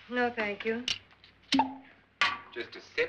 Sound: cork pops

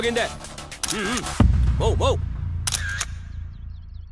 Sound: camera clicks

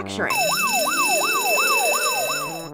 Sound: alarm bells & sirens

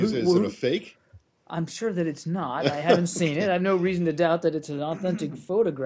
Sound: laughter

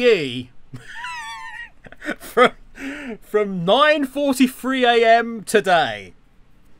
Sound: laughs

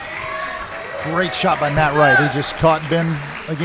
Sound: audience applauding

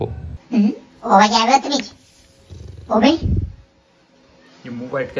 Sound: growling

